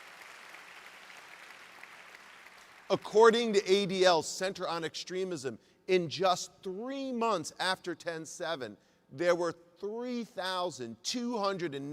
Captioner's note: applause